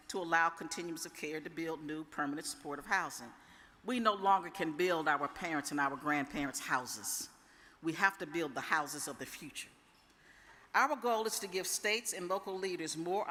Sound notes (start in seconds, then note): none